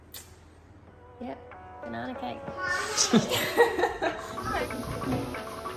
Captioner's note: laughs